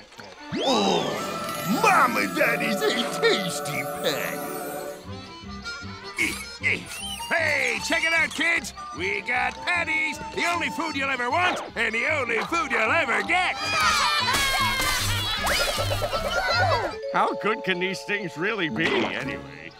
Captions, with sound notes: Oh, mama, that is a tasty patty. Hey, check it out, kids. We've got patties. The only food you'll ever want and the only food you'll ever get! [cheering] How good can these things really be, anyway?